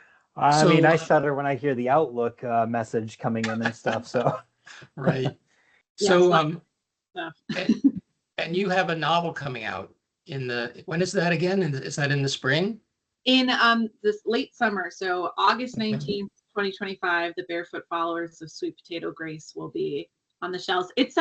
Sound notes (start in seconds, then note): 4.2 chuckles